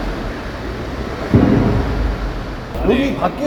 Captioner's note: bang